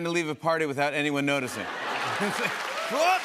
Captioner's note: laughter